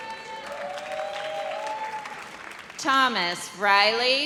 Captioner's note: audience cheers